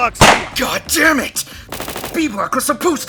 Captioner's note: gun shots